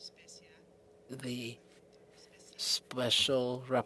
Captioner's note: speaking french